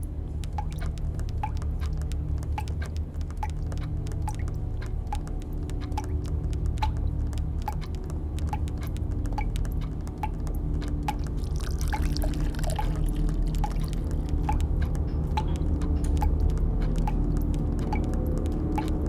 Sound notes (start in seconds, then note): 1.2 finger tapping; 11.2 water pouring